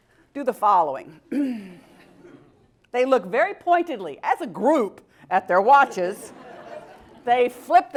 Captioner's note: cough